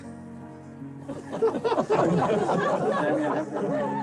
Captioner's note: all laughing; gentle music